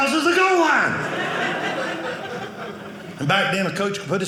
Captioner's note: audience laughing